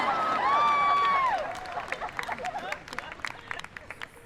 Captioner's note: people laughing